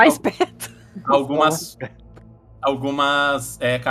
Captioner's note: laughs